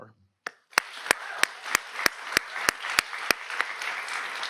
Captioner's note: audience applauds